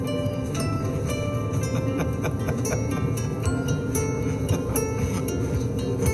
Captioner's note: laughs